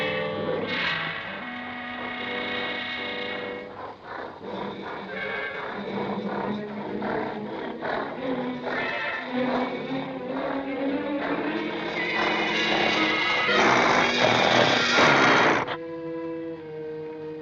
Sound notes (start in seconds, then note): 13.5 growling